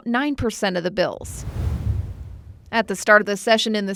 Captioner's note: air whooshes